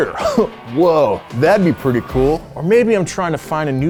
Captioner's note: chuckles